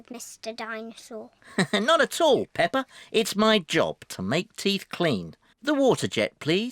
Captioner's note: laughs